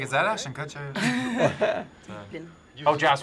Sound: both laugh

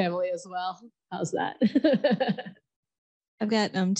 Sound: chuckles

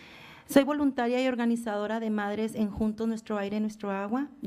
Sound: foreign language

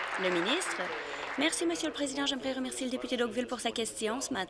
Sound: applause

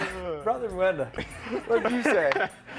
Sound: laughter

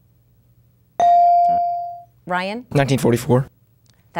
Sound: dinging

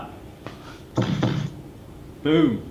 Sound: thudding noise

